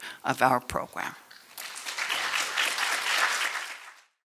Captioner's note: applause